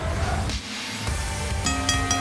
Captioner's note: bell ringing